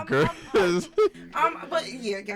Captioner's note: laughing